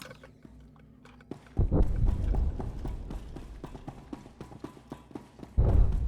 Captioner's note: gunshots